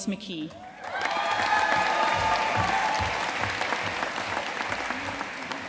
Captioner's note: audience cheering and applauding